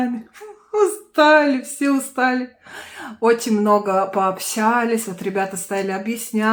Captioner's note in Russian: тяжело вздыхает